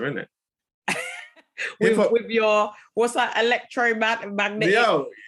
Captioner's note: laughing